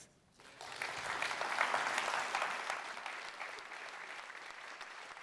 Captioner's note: audience applauding